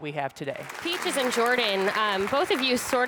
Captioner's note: crowd applauds